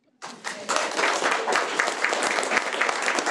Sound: applauds

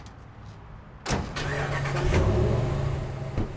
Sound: engine starting

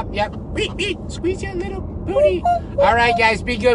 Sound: imitating squeaking

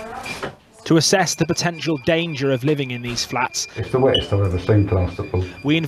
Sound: muffled voice from hygienist

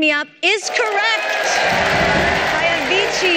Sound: cheering

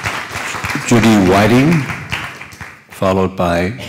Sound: applause

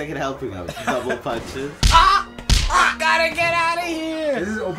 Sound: double punch

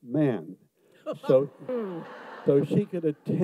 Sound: audience laughs

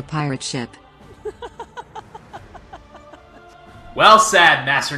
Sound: laughs

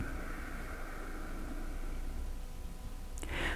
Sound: exhales

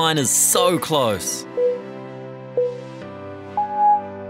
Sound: timer beeping

